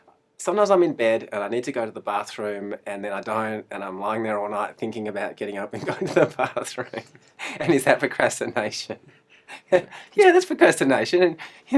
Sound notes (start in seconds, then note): 5.8 laughs